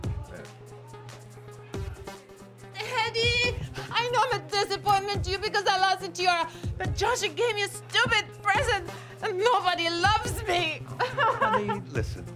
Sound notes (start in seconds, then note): 8.4 sobs